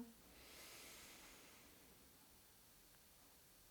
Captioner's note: breathes